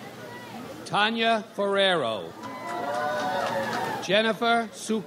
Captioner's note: audience applauds